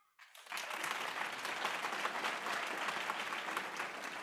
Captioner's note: applause